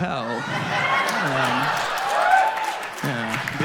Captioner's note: audience laughs